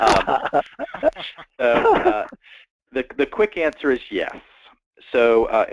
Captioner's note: laugh